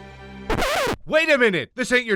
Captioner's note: record scratching